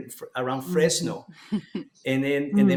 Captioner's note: laughs